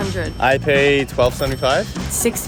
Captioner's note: cash register chiming